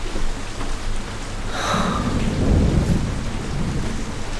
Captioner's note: thunder outside